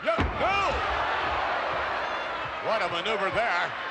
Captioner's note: crowd cheers